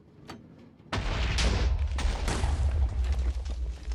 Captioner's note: chained explosions